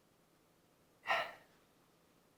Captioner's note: sigh